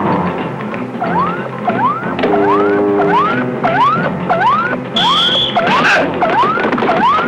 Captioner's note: dramatic music; electronic beeping